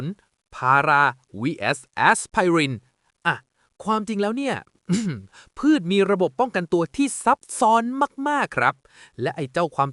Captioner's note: ahem